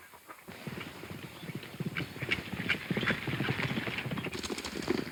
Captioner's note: hooves pounding